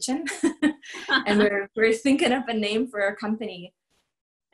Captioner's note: laughter